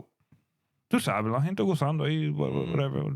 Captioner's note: speaking In Spanish